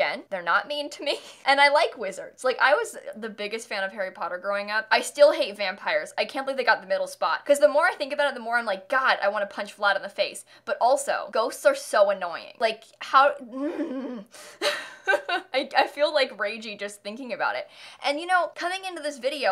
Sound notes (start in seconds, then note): 14.6 murderous laugh